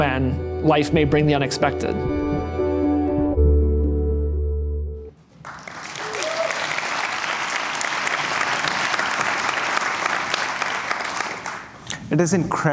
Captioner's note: applause